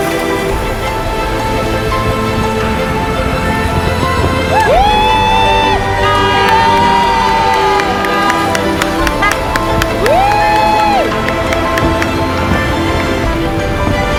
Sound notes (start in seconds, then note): 6.7 applauding; 6.7 triumphant music continues